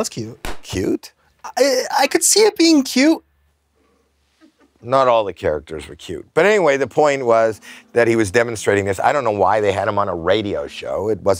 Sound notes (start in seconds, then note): 1.3 stammers